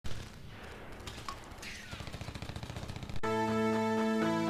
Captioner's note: guns firing